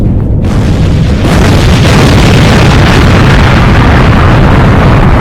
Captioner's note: rocket exploding